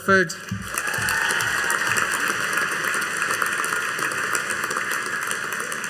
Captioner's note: audience cheering and applauding